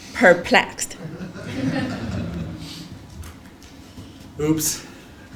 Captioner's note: laugh; laugh